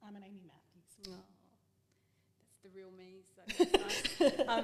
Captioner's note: laughing